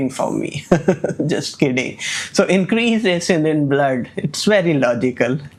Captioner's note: laughs